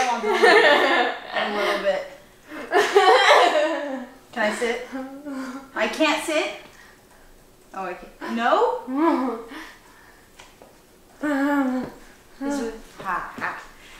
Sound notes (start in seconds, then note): 2.5 laughs; 8.9 laughs